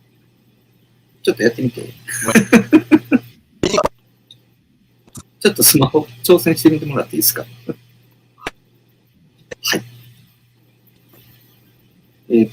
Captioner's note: laughs